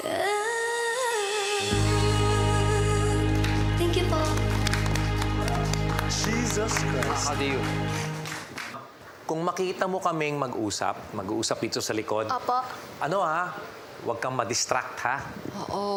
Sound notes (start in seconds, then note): 4.2 clapping